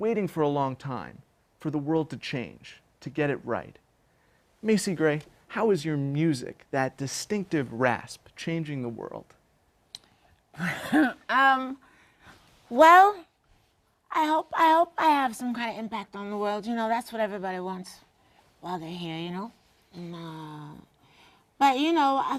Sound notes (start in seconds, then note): 10.6 laugh